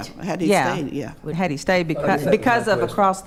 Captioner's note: speaking quietly